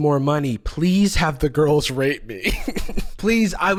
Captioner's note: laughs